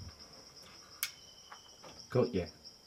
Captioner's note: switch clicks